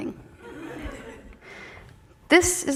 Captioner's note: audience chuckling